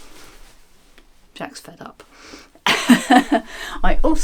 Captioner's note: laughs